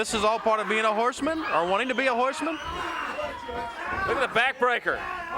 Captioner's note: crowd clamoring